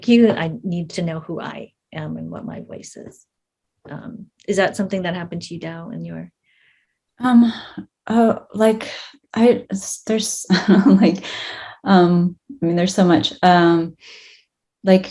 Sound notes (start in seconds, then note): 10.6 chuckles